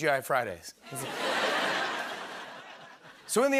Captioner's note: laughter